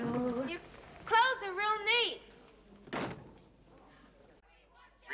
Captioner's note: Дверь закрывается